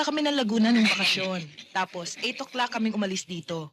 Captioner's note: none